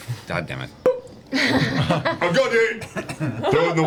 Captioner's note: popping sound